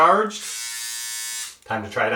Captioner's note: buzzing